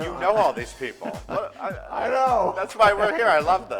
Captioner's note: laughs